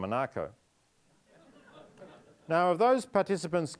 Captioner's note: audience laughing